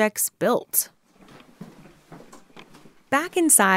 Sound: sound of creaking floorboards, footsteps in home

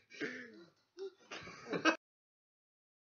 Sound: chuckles

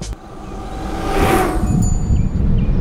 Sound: electric bike whirring

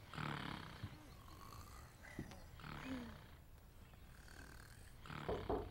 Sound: snoring

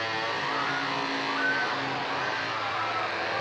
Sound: screaming

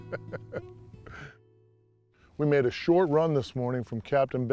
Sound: laughter

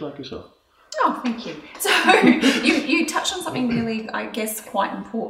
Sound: laughs

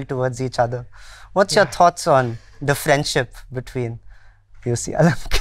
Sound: laughs

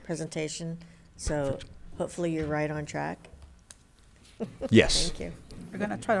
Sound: laughs

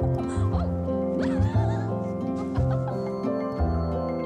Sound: laughs; giggles; uplifting music

